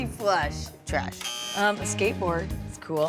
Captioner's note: buzzer blares